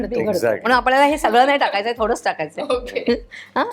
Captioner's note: chuckles